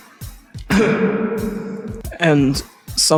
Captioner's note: cough